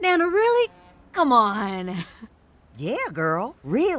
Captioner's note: chuckles